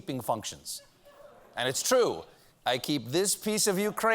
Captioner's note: as putin